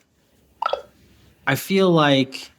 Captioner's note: phone chimes